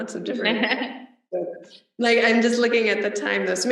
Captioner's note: laughs